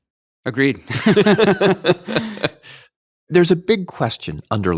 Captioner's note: laughing